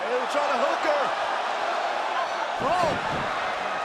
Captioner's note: crowd cheering